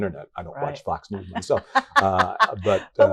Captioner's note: laughs